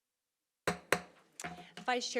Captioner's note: silence; gavel hitting dais